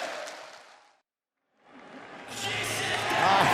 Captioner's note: crowd cheering